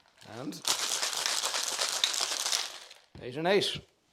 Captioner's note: ice shaking